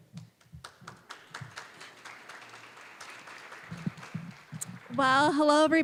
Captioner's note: applause